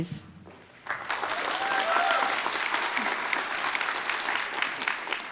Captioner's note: applause